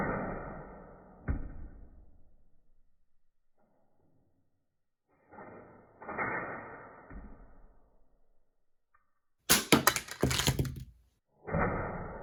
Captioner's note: slow-motion sounds